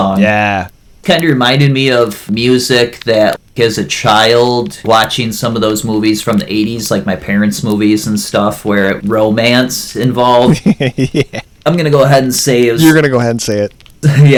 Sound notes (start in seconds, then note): 10.4 laughs